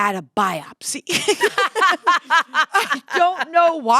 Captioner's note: laughter